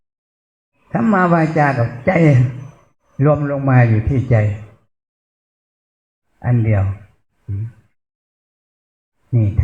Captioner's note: spiritual speech